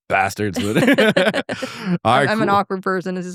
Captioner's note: both laughing